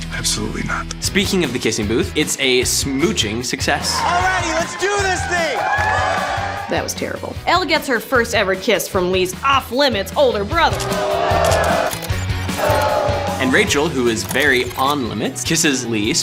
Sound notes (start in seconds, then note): 6.1 crowd cheers; 10.7 crowd cheers